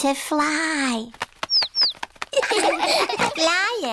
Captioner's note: chirping; laughter